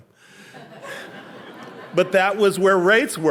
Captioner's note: audience laughing